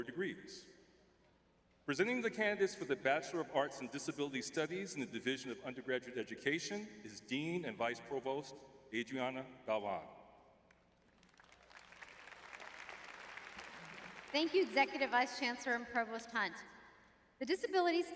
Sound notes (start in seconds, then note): 12.9 applause